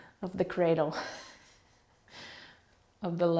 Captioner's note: laughing